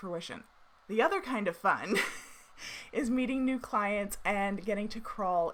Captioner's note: chuckles